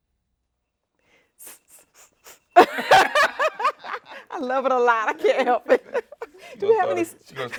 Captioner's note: hissing